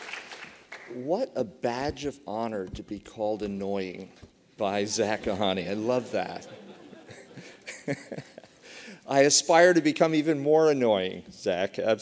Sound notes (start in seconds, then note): 6.1 laughter; 6.4 laughs